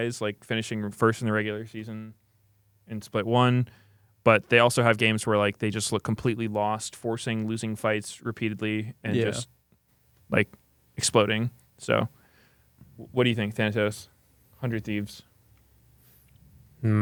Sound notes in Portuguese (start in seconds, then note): none